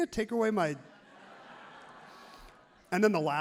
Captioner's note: crowd laughs happily